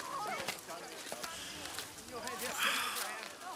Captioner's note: sighs